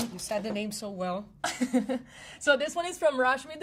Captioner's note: hearty laughing